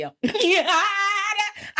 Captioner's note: laughing